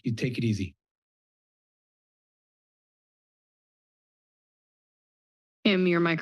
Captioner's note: silence